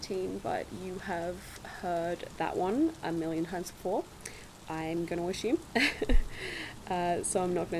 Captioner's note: laugh